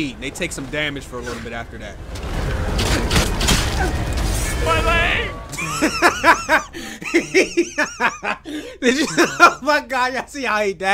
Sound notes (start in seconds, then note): 3.2 arrows hitting flesh; 5.5 laughs